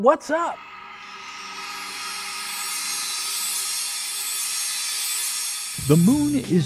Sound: sound Effects

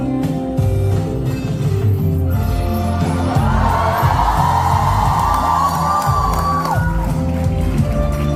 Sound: ปรบมือ

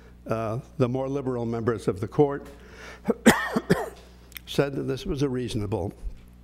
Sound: cough

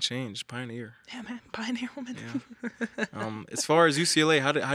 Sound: laughs

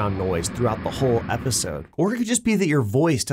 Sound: engine roaring

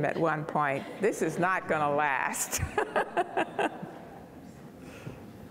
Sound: laughing

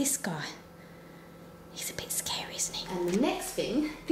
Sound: whispers

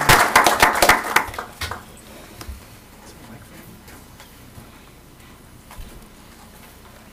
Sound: applause

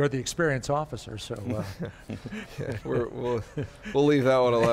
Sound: all laughing

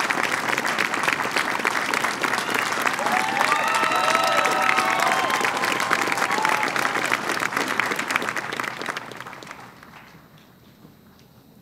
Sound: cheering and applause

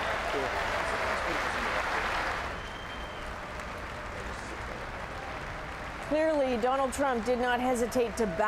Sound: applause

